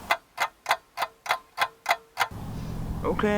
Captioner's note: clock ticks